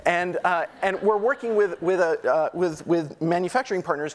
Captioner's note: audience laughing